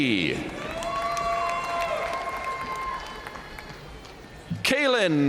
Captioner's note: audience cheering and applauding